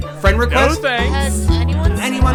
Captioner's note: students chattering